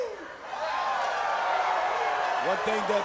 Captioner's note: crowd cheering